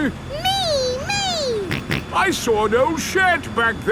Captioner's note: snorts